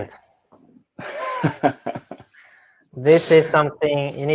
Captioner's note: laughing